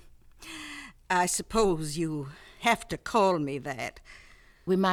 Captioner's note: chuckles